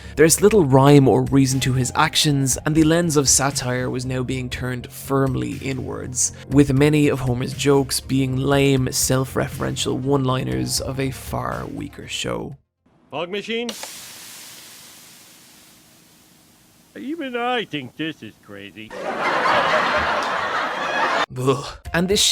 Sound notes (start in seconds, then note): 17.6 laughtrack